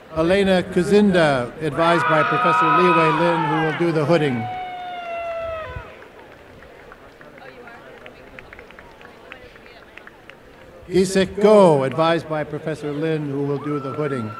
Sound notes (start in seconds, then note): 4.0 applause